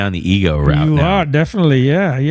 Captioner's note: uh